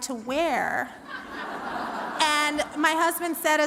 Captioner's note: laughter